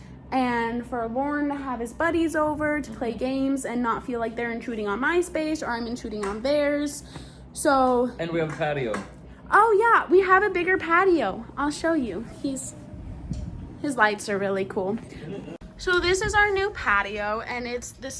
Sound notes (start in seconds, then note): 15.2 laughs